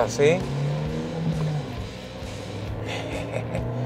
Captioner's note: engine revving